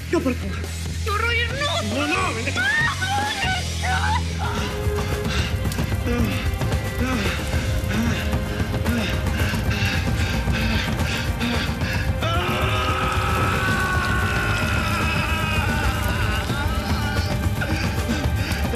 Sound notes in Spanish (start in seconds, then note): 2.7 gritos y exclamaciones; 12.2 gritos